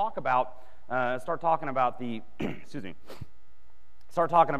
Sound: clears throat

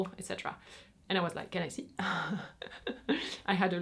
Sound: laughs

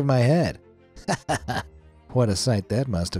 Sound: narrator chuckling

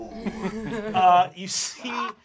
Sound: laughter

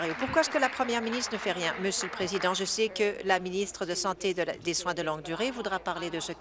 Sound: applause

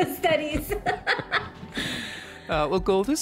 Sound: both laughing

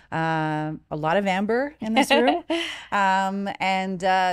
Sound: laughing

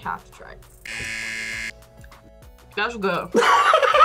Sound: buzzer; laughs

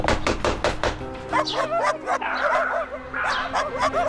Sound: loud Dog Barking

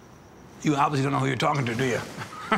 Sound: laughter

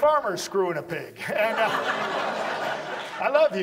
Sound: audience laughs

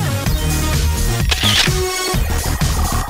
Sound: camera shutter

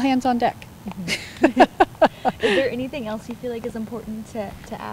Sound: laughs

